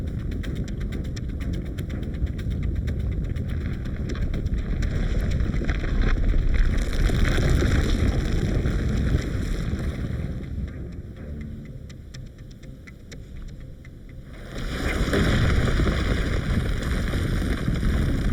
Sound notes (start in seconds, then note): 6.6 ground cracking; 14.2 ground rumbling